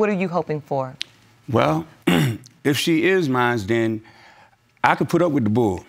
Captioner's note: clears throat